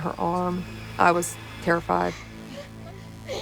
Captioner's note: crying